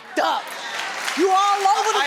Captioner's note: audience clapping